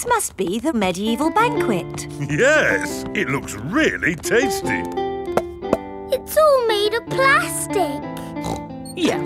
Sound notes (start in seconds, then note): 5.1 hollow taps; 8.2 snorts